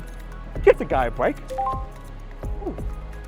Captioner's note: dating app notificaiton